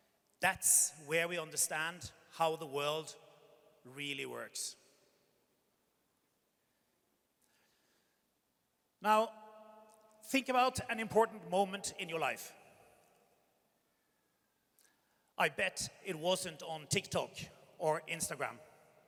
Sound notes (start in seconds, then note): none